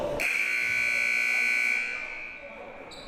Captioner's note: buzzer